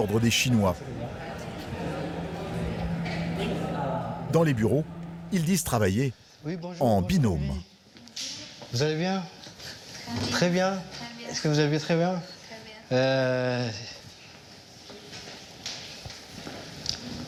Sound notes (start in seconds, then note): 0.0 people chattering; 8.2 both speaking foreign language